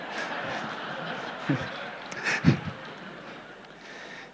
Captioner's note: laughter